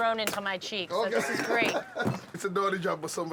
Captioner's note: laughs